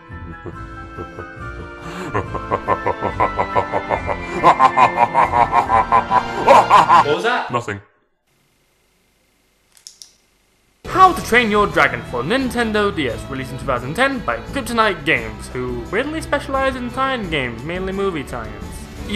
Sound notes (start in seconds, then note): 0.0 ominous laugh; 9.8 game click